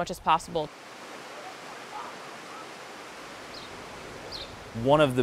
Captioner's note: waterfall